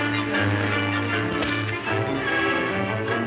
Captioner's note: dramatic music; fist thuds